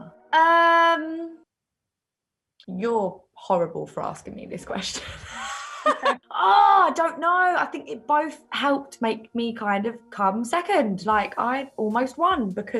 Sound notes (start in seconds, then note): 4.9 laughs